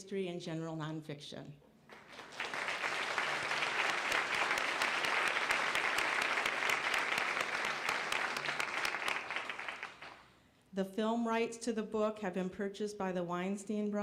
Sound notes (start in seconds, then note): 1.9 applause